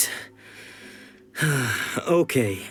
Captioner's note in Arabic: يتنفس بصعوبة